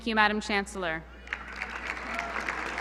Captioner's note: applause